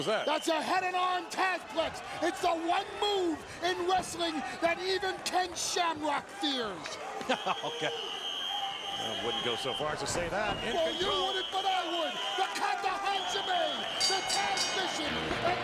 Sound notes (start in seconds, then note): 7.3 laugh